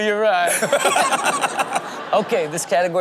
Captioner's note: Sterling laughing